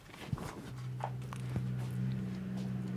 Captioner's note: distant machine noise